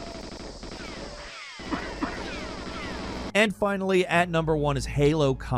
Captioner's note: guns blasting